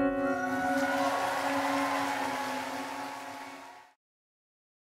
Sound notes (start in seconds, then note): 0.0 cheering